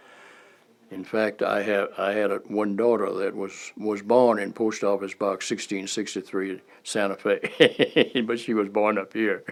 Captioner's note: laughter